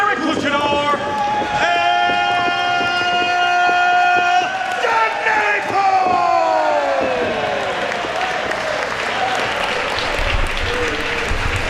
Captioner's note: applause